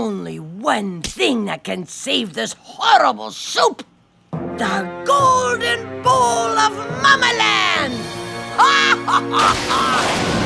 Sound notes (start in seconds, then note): 7.3 cackles; 9.4 lightning crashes